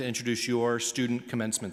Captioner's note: none